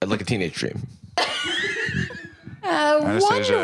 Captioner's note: laugh